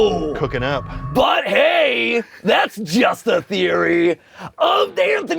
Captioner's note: in character voice